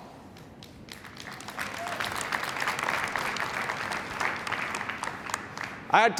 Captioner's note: applause